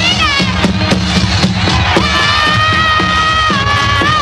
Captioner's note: war chanting